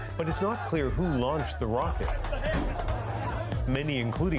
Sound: screaming

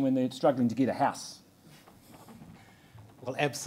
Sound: none

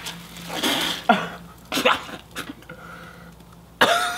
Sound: soda hissing; spits

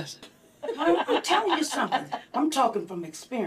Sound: all laugh

